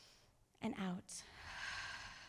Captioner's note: inhales; exhales